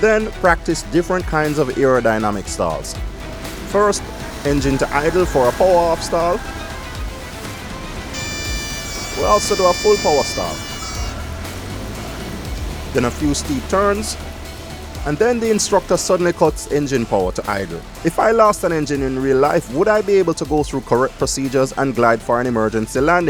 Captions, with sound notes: Then practice different kinds of aerodynamic stalls. First, engine to idle for a power-off stall. [stall warning horn sounds] We also do a full power stall. Then a few steep turns. Then the instructor suddenly cuts engine power to idle. If lost an engine in real life, would I be able to go through correct procedures and glide for an emergency landing